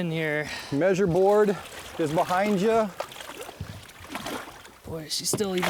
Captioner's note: voiceover